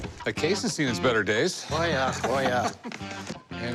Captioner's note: laughs